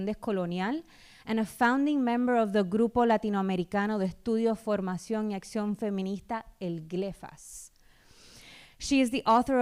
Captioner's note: speaking spanish